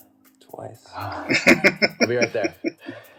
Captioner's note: laughing